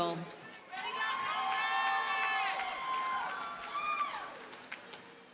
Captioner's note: audience cheers and applauds